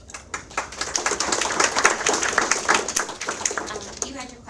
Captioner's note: audience applauds